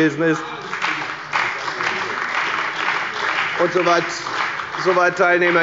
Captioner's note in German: Beifall bei der FDP und der CDU